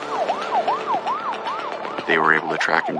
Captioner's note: sirirenen waiaililing